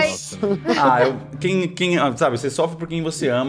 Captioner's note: giggles